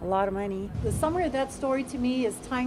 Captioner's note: air whooshing